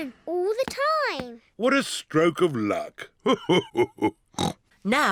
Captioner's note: laughs; snorts